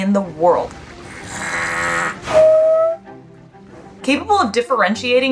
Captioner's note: background music; walrus vocalizing